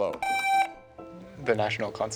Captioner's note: buzzer buzzing